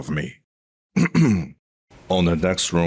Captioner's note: clears throat